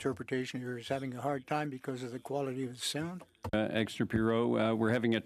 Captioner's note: speaking French